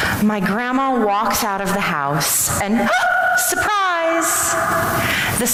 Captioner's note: gasp